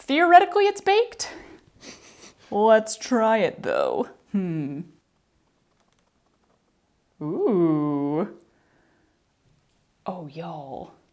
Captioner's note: sniffing